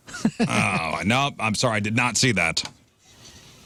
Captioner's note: laughing